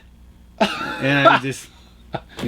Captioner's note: laughs